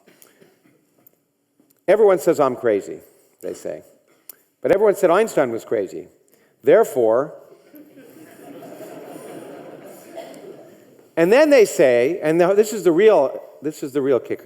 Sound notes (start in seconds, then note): 7.6 audience laughing